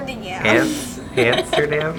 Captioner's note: laughs